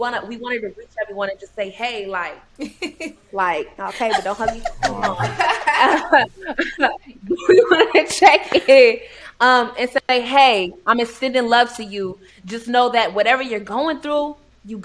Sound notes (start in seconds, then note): 3.9 chuckling; 6.2 both chuckling